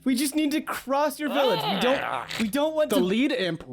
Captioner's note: Imp noises